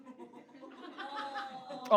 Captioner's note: audience laughs